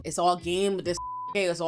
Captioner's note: beep